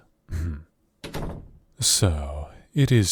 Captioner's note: door closes